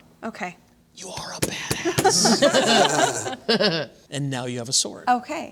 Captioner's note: laughter